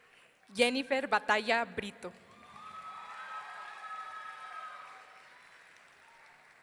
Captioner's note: audience cheering